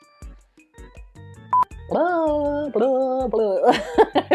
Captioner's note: signal beeps; laughs